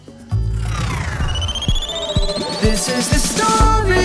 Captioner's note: electronic swoosh